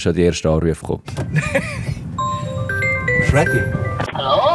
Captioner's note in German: Telefon klingelt